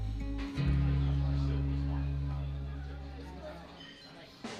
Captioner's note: diners chattering